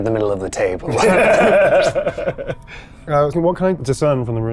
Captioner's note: chuckling